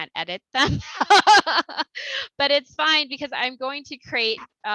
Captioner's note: laughter